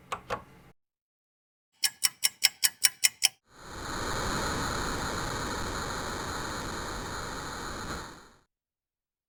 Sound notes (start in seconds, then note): 1.8 ticking clock